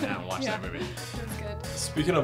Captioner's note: laughs